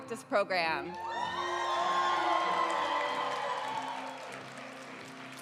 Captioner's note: audience applauds throughout